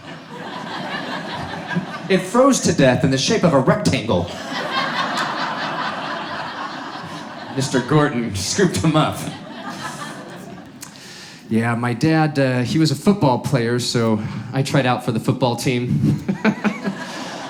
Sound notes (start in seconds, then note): 0.0 audience laughs; 4.2 audience laughs; 16.0 laughing